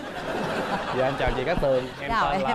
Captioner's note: laugh